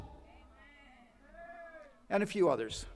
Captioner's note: attendee cheers